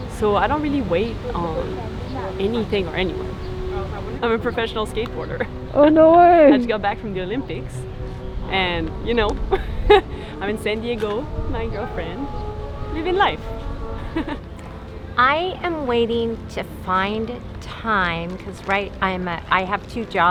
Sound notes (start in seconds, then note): 12.9 chuckles